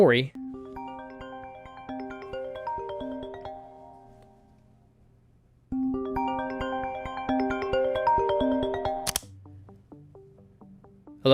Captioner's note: phone rings